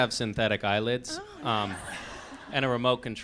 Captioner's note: laughs